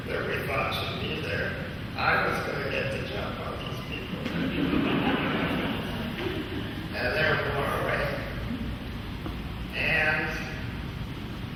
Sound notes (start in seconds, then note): 4.2 laughing